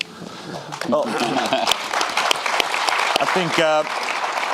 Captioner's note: audience applauding